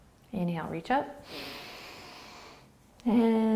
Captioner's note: inhaling